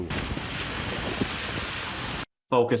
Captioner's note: water splashing